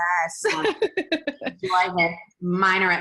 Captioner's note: laughs